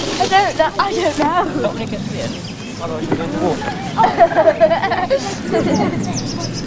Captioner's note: sound of children chatting